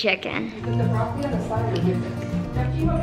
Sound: chews

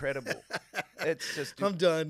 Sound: laughing

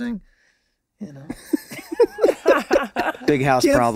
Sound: all laughing

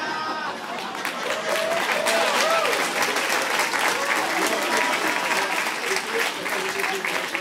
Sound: applause

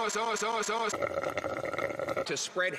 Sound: slurps quietly

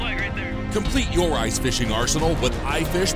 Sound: voiceover

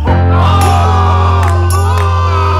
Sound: screaming

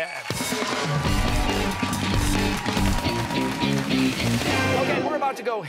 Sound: cheers and applause

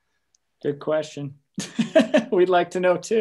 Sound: chuckling

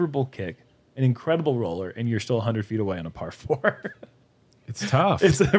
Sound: chuckles

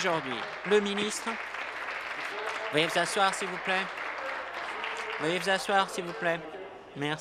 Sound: applause

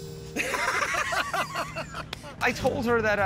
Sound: laughter

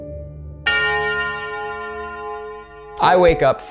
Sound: bell tolls

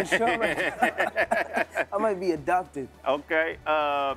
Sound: both laughing

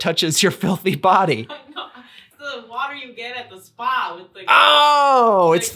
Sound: laughter

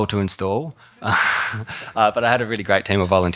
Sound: chuckling

